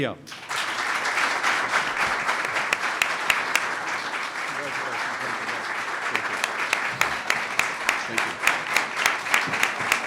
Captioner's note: applause